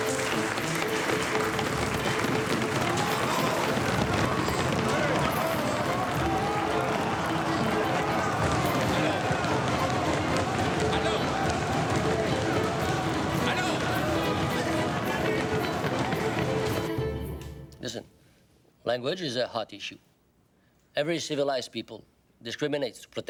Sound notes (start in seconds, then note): 0.1 tense dramatic music; 3.2 all banging on tables